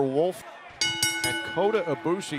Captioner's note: bell ringing